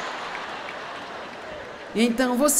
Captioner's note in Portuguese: audiência ri